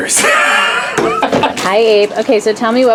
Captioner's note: laughs